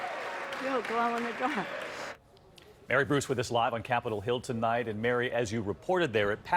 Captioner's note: cheers and applause